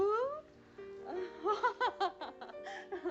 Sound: laughing

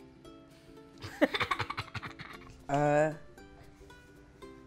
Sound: laughter

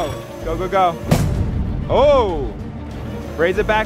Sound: machine whirring; thuds

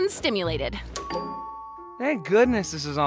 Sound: doorbell rings

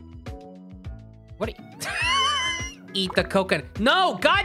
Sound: laughing

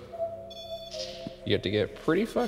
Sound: REM-Pod beeps

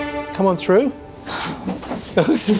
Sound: gasps; scattered laughter

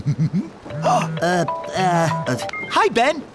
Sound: chuckles; phone rings

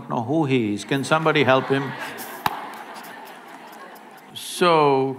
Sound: laughter

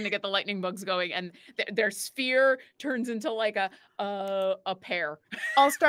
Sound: laughs

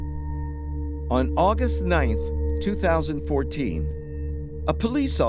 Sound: voiceover

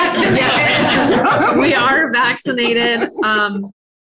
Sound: people laugh

